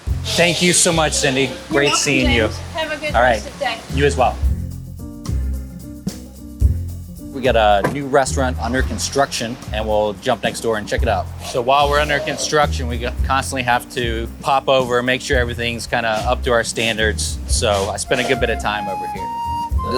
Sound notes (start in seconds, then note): 6.3 truck door slams